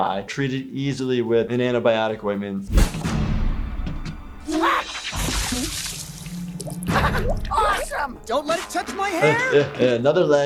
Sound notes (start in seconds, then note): 4.5 water splashes; 6.9 Owen giggles; 9.5 giggles